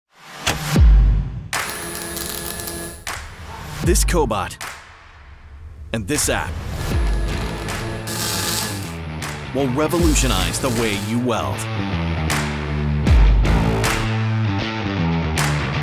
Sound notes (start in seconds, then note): 1.6 welding apparatus buzzing; 11.7 instrumental rock music